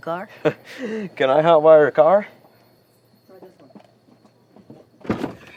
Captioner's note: chuckling